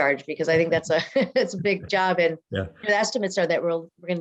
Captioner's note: laughs